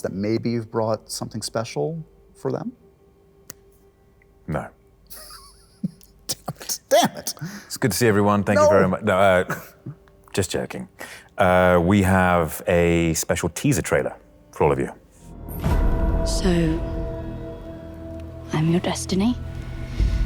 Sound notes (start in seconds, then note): 5.1 laughs